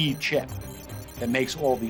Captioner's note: computer calculating sound effect